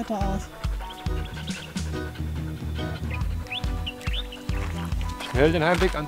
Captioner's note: birdsong